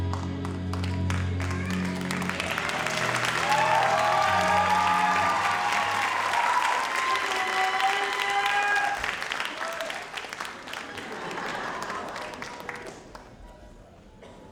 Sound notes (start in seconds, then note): 1.3 audience cheers and applauds